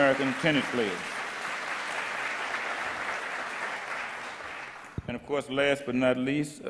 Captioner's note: audience applause